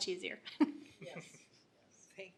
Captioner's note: laughter